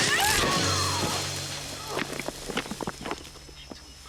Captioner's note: screaming; grunting and groaning